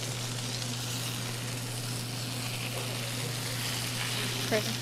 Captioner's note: food sizzling